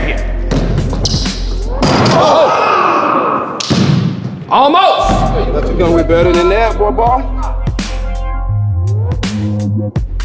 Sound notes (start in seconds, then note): 0.5 ball bouncing; 1.8 dunk sound; 2.2 cheers; 5.0 ball bouncing